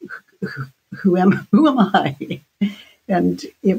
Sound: laughs

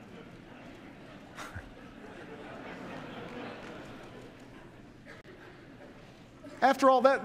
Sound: laughter

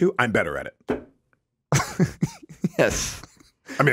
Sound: Justin laughs

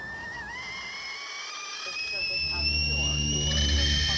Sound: whistling boiling kettle

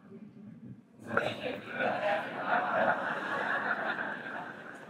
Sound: audience chuckling

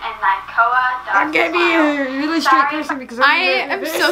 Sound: laughs

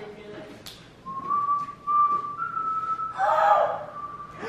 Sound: whistles song

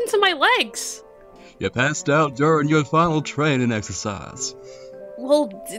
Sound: cowboy voice

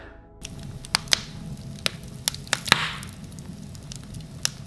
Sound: fire crackling

